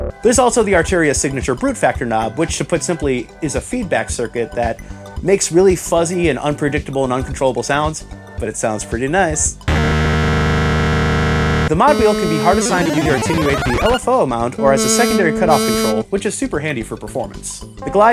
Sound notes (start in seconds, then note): 9.7 fuzz